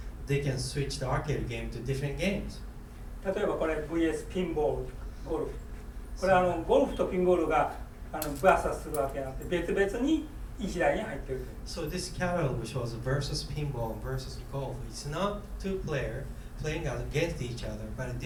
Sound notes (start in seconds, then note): 3.3 speaking in foreign language; 8.4 rustling